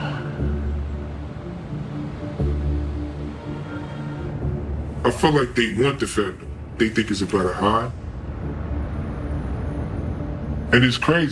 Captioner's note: sirens